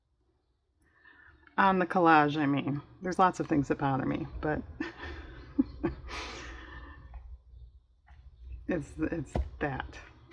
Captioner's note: laughs